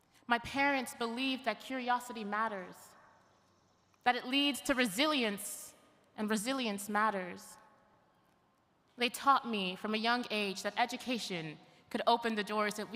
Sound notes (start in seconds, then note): none